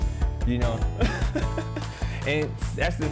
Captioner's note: laughs